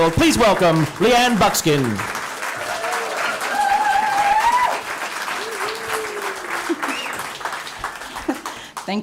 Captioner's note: cheering and applause